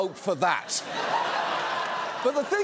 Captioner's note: audience laughs